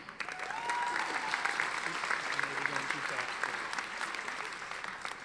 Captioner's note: audience applauding